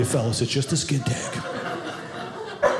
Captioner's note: audience laughing